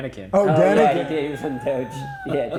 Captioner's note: laughing